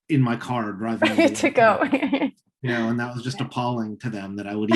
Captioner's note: laughing